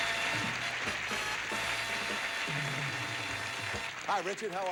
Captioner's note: audience applauding